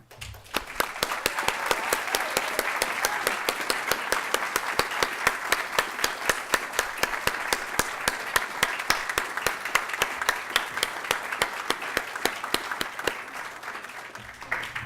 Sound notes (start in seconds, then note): 0.0 applause